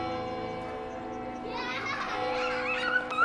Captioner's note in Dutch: lachende en schreeuwende kinderen